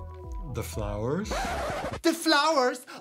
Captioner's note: record scratch